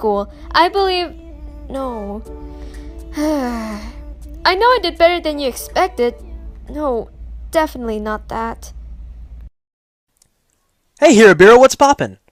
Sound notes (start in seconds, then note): 2.4 sighs annoyed